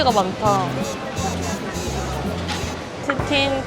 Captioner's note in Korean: 꼴 깍